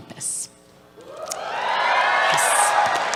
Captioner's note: cheers